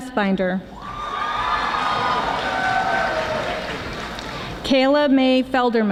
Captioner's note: audience applauding